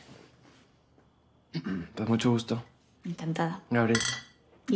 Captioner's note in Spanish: carraspea